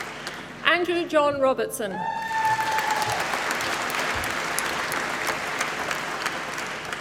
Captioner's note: applause